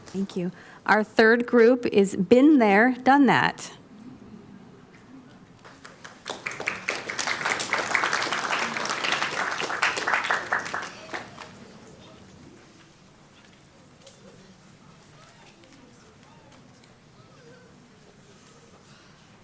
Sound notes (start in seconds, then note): 5.6 applauding